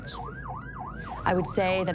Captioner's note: siren wailing